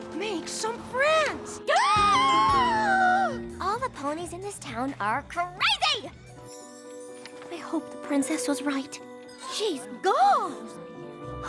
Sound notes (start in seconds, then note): 1.5 gasps